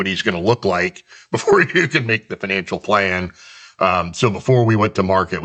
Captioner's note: chuckles